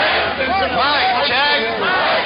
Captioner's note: voiceover